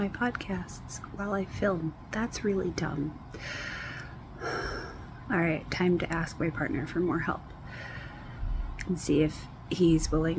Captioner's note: sighs